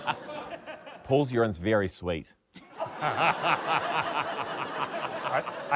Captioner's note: laughter